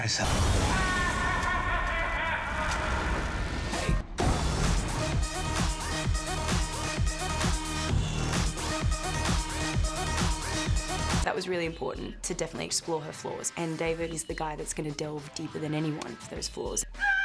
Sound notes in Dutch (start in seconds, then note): 1.2 joker maniaal lachend; 17.0 screams